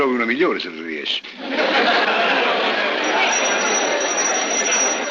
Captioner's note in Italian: risate